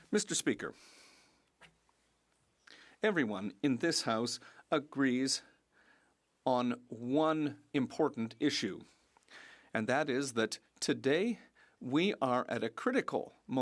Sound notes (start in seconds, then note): 5.6 speaking French